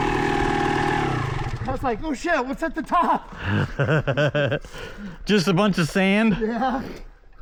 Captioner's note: laughing